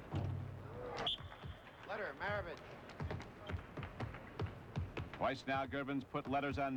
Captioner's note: whistle blows